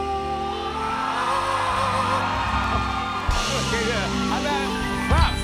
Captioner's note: cheering